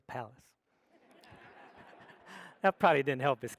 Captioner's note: audience laughs